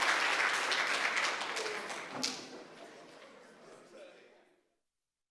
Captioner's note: audience applauds; audience chatters